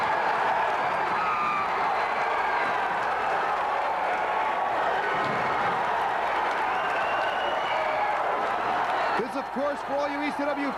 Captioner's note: crowd cheering